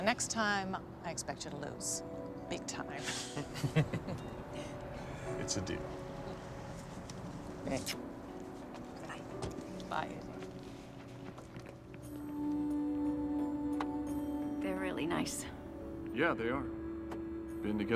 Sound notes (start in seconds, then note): 3.0 chuckling